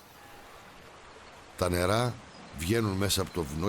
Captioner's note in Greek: ήχος νερού που τρέχει